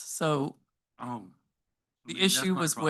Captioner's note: speaks faintly